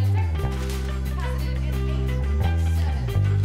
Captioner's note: paper tears